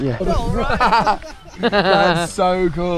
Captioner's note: people chatter